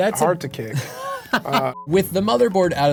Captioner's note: laughs